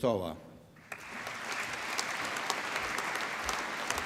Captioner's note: applause